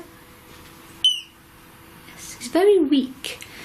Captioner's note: beep